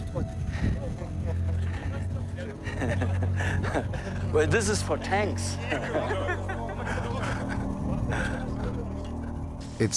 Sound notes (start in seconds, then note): 2.6 laughs; 5.6 laughter